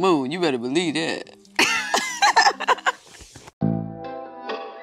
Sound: laughing

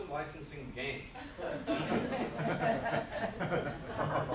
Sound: audience laughs

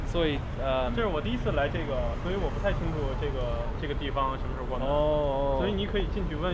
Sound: mandarin; mandarin

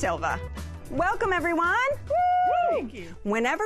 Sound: whooping

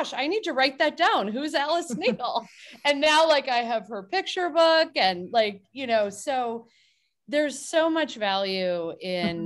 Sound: laughs

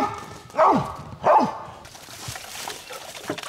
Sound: dogs barking

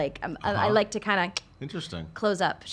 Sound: clicks

